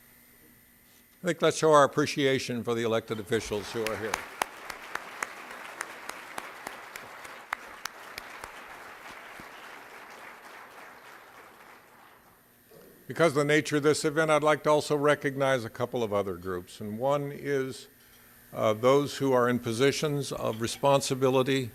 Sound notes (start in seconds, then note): 4.9 applause